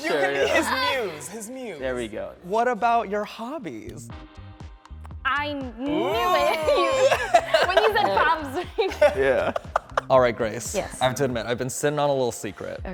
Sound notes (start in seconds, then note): 5.8 chatting and laughing